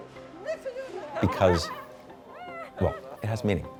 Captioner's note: people chattering